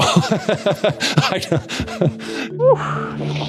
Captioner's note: laughter